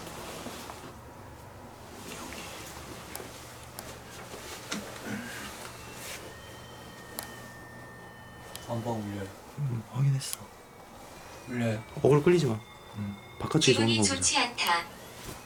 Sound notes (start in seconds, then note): 5.1 The sound of oh-yes device in the master bedroom